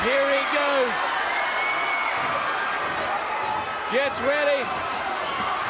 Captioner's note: crowd cheering